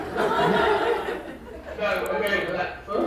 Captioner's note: crowd laughing